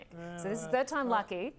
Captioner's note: laughs